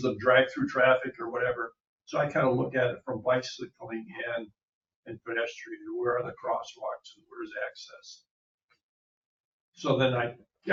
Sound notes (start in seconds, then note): none